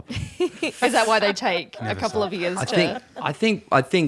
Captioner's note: laughs